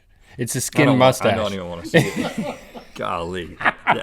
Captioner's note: Link and crew laugh